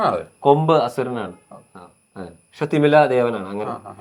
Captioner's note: horn